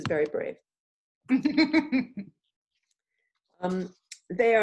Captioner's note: laughing